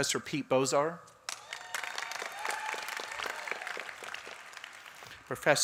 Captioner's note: applause